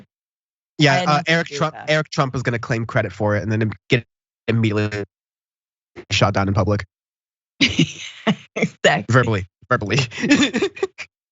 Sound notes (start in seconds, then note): 9.8 laugh